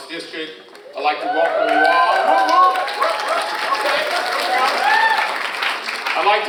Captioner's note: crowd cheering loudly